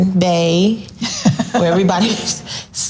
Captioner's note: laughs softly